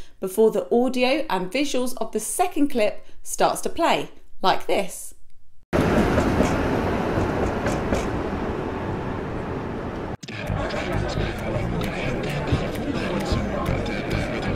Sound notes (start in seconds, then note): 5.7 train tracks rattling; 10.2 club patrons conversing